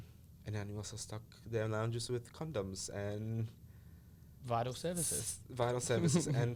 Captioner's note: laughs